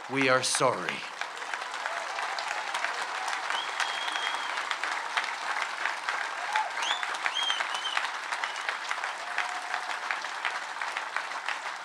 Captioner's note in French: Acclamations et applaudissements nourris